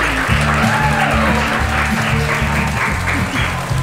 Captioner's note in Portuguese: aplausos e risadas